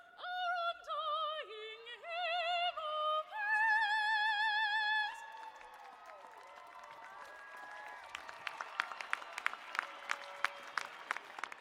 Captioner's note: cheers and applause